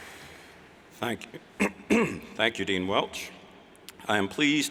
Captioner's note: clears throat